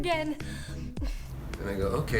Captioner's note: Allison breathes heavily